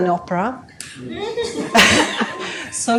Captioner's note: laughter